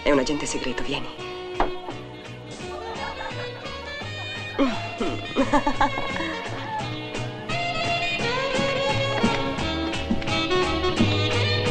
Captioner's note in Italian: risate